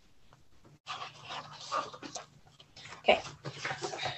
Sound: pages rustle

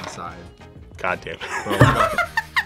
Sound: laughs

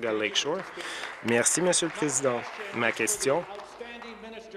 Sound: applause

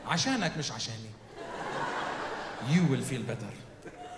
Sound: speaks in foreign language

